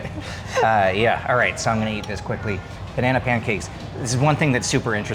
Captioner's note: laughing